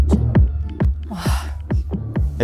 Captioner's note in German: seufzt